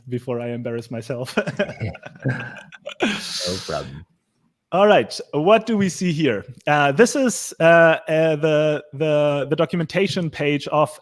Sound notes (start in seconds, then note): 1.3 chuckling